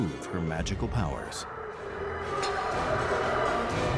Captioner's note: dragon roaring